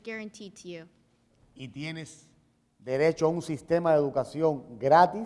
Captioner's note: speaking in Spanish